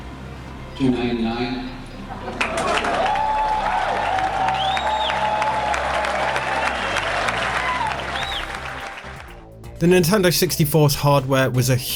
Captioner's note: crowd cheers